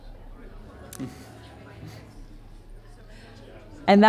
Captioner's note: people chattering